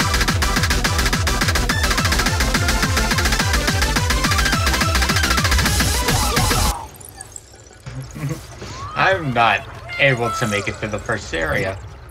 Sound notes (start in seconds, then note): 3.5 +DDR Noises; 6.2 dying noises; 6.7 giggle